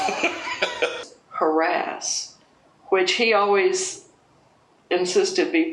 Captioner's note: laughs